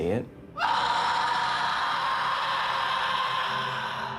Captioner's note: screams